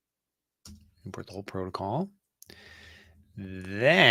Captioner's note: none